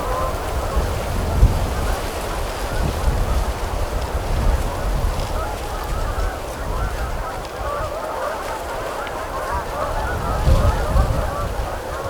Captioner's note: geese honking / wind